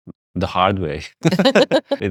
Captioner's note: both laugh